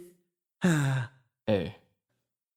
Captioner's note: sigh